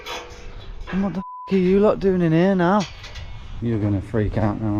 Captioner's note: beep